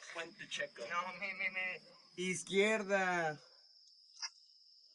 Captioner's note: foreign language